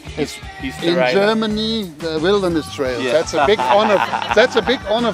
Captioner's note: laughs